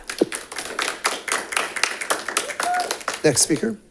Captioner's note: audience applauding